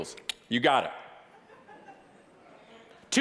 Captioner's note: mouth clicking